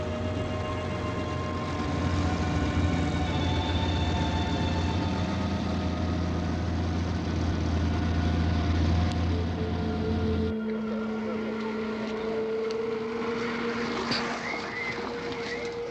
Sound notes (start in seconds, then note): 11.5 car engine running